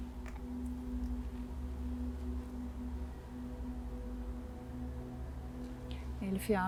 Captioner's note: wind in the background